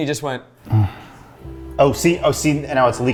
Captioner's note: moans